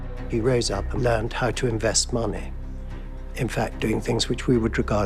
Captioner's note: Voz en off